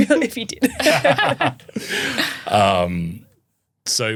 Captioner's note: everyone laughing